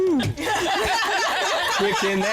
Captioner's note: laughter